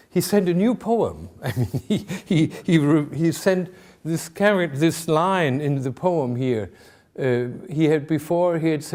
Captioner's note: chuckling